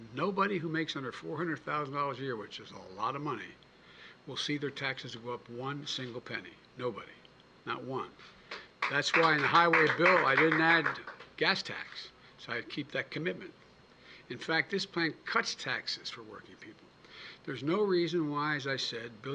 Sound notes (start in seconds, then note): 8.5 applause